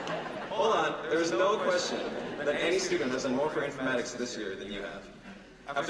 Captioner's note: laughter